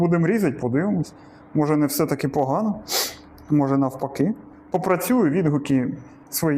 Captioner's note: sniffs